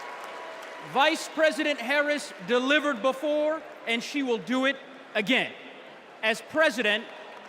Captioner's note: cheers and applause